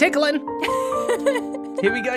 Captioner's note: laughs